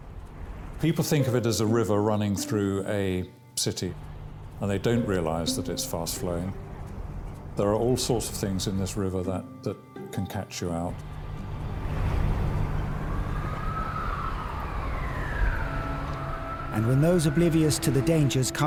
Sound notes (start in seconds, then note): 10.9 water splashing; 11.1 traffic humming; 13.3 sirens blaring; 15.5 uplifting instrumental music